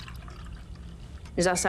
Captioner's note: coffee pouring